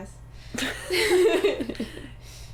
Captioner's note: laughter